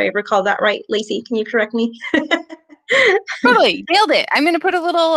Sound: chuckles

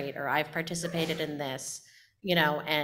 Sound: audience member sneezing

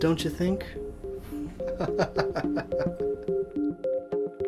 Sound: maniacal laughs

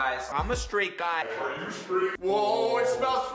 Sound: echoing

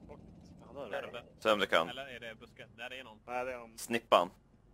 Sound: strategic chattering

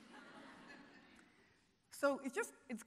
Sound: audience laughing

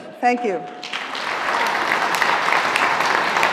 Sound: applause

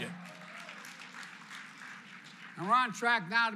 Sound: applause

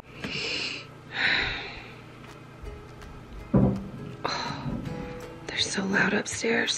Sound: breathes deeply

